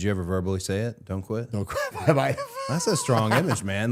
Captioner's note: laughing